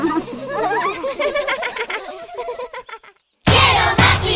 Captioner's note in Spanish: Risas